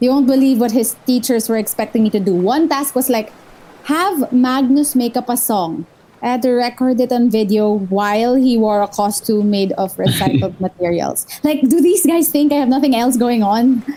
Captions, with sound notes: You won’t believe what his teachers were expecting me to do. One task was, like, have Magnus make up a song. I had to record it on video while he wore a costume made of MAGS recycled materials. LUKE [Laughs] Like, do these guys think I have nothing else going on?